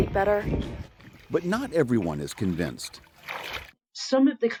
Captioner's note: voice-over